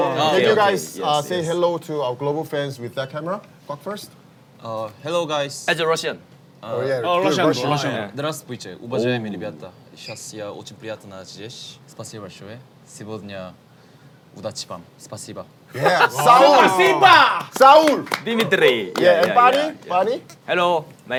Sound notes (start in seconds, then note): 8.0 in Russian; 17.5 in Azerbaijani